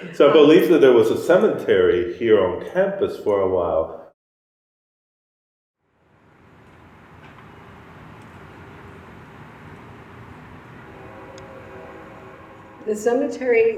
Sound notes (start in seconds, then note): 6.7 ambient sounds of wind and distant traffic, crows